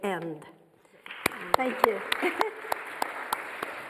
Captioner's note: audience applauding